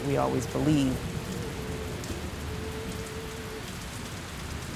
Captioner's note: rain pouring